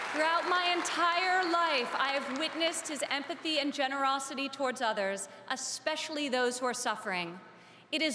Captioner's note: applause